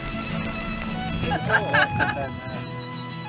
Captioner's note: laughter